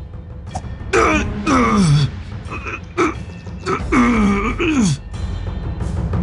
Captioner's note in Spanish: gruñidos